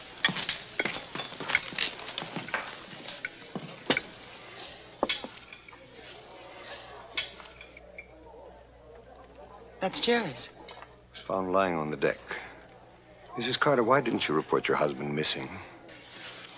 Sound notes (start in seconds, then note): 2.1 footsteps approaching